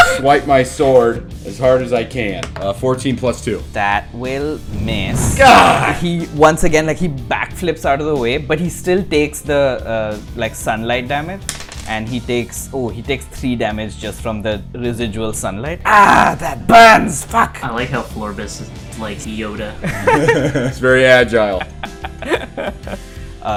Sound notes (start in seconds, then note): 19.8 laughter